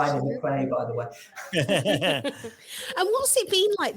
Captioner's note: all chuckles